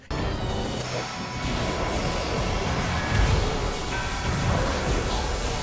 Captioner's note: weapons firing